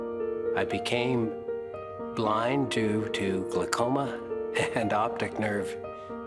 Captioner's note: laugh